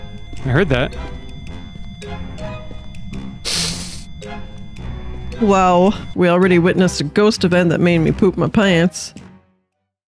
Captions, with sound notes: I heard that (sniffs) Wow We already witnessed a ghost event that made me poop my pants